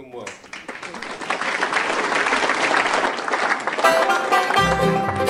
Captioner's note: audience applauding